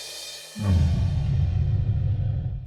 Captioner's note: growling